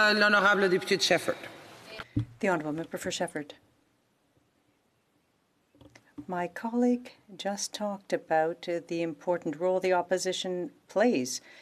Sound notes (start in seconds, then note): 5.9 speaking French